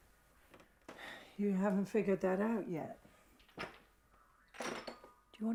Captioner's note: sighs